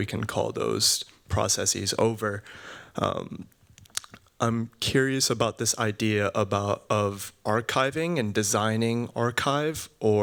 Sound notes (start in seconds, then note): none